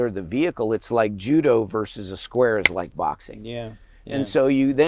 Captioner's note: claps